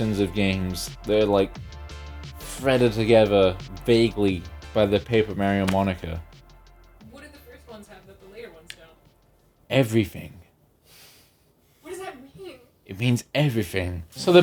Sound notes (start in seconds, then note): none